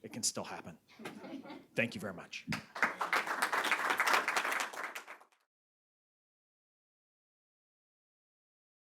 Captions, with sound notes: It can still happen. (audience chuckles) Thank you very much. (audience applauds)